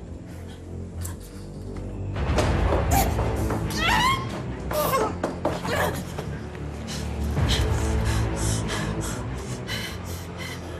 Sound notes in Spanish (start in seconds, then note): 3.7 Grito